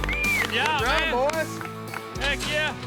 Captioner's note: clapping